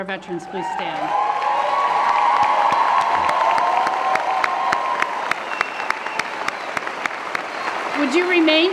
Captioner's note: cheering & Applause